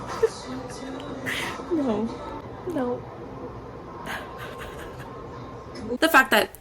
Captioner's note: sobbing